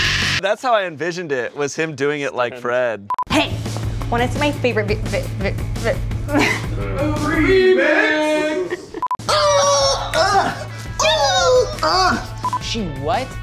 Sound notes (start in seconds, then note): 6.3 laugh; 9.2 random shrieking and dying seal noises